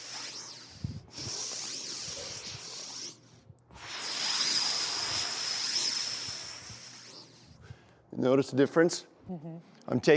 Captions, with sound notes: (inhales slowly) (exhales slowly) Notice the difference? - Mm-hmm.